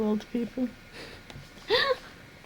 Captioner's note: laughs